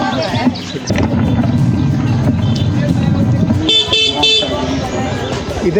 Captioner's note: horn honking